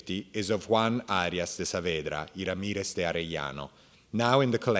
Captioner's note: speaking in Spanish